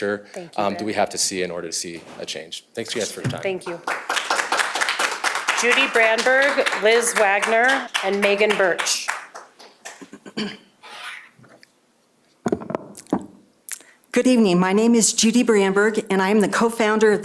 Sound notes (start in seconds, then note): 7.2 applause